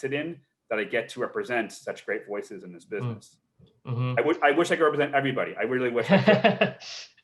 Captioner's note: laughs